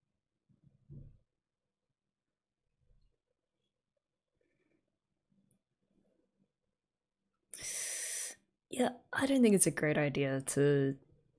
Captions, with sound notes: [sharp inhale] Yeah I don't think it's a great idea to...